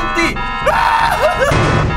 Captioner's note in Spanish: Grita